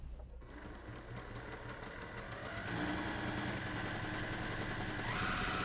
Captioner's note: sewing machine humming